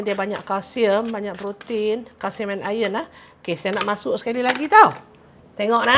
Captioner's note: none